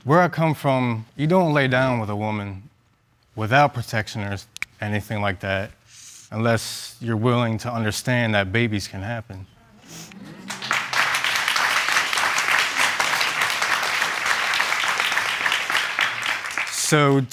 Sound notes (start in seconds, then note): 4.9 snaps fingers; 10.2 audience chatter approval